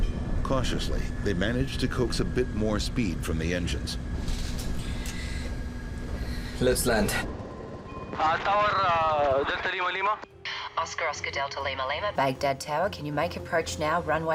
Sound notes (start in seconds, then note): 8.3 man on radio speaks foreign language